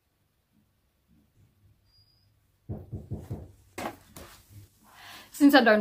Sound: hears screen door open and a knock

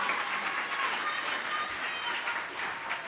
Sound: applause

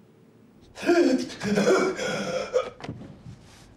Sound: gasps

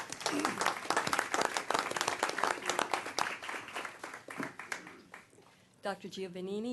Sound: applause

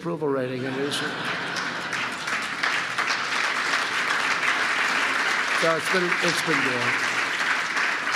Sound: laughter and applause

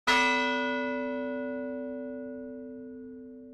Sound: bell dings

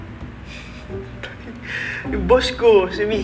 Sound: chuckles

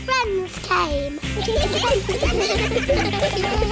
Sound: giggling

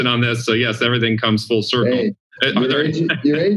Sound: laughs

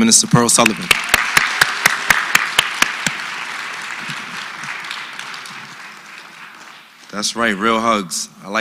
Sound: applause

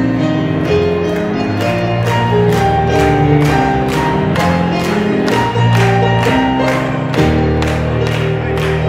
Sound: clapping intensifies

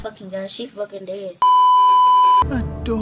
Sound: beeeeeep

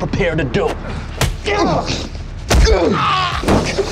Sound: punches; screams

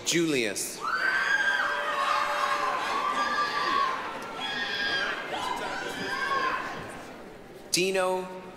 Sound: applause, cheering

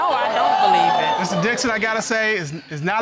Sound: audience exclaiming

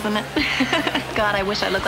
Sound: giggling

